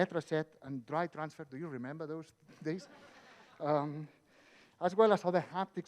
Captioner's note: audience laughs